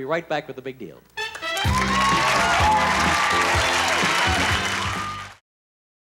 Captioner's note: lively pop music; applause